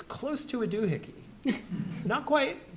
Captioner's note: audience chuckling